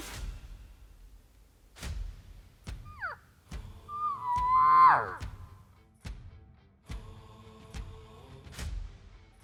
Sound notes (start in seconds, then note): 3.7 imitates an elk call